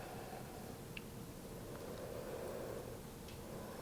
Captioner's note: inhales